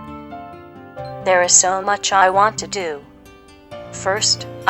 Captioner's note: through computer